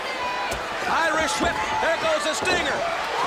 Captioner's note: crowd cheering